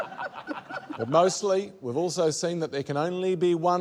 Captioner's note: laughter